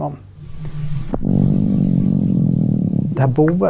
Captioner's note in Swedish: brummande ljud